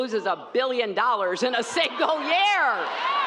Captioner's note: cheers